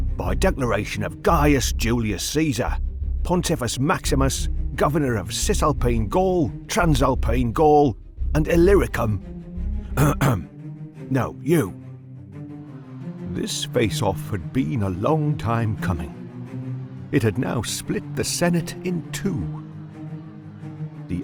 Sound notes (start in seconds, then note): 10.0 clears Throat